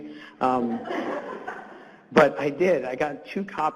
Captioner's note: audience laughs